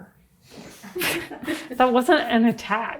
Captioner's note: people chuckle